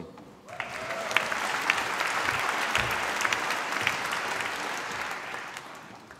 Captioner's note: applause